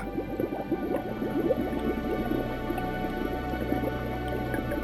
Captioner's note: water bubbles